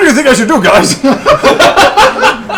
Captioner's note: all laugh